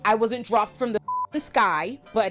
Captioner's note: beep